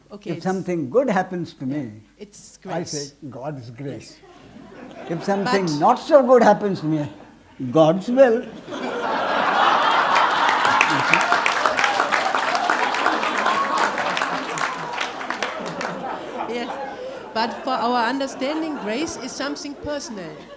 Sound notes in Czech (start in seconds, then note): 4.3 smích; 12.8 potlesk a smích